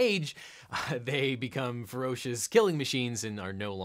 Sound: laughs lightly

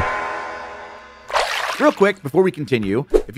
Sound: water splashing

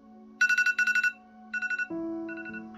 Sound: alarm goes off

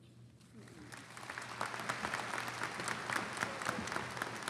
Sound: audience applauding

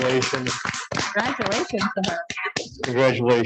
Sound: applause

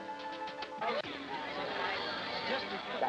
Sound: party noise

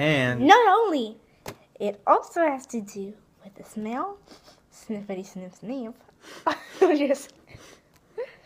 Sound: sniffity sniff sniff

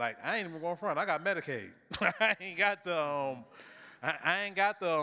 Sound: chuckles

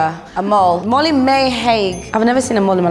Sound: correct bell

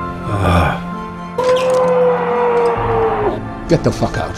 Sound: Kendall screaming

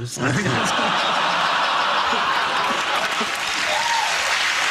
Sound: audience laughs

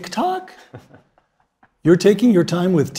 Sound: laugh

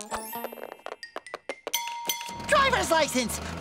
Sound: dinging

